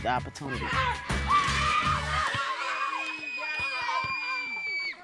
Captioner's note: children shouting